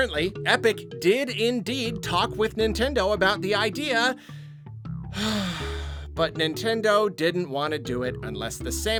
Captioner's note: sigh